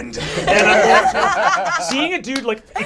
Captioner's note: all laugh